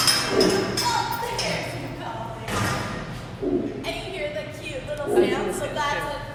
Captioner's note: lion growl; low lion chuff